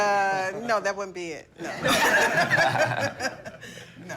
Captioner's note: laughter